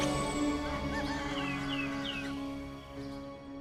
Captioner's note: rooster crows